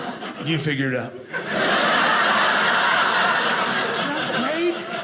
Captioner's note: audience laughing